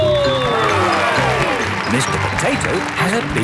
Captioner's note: cheering